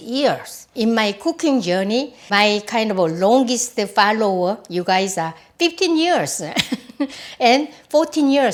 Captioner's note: laughs